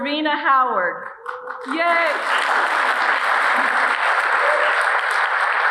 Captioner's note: audience applauding